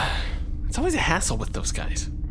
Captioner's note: sighs